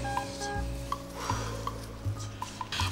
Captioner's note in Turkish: Derin nefes alıyor